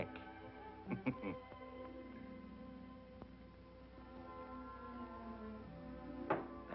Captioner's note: chuckles